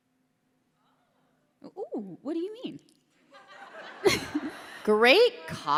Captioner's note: laughter